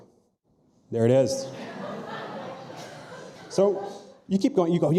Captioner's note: audience laughing